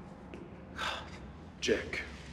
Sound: sighs

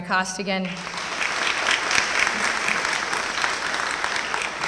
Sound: applause

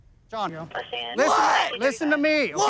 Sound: yelling

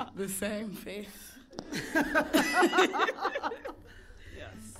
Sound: both laughing; all laughing

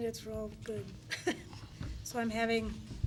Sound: laughs

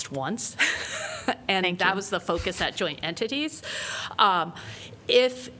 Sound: laughter

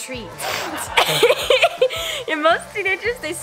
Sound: laughing

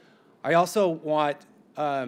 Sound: none

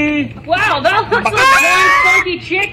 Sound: chicken clucks loudly

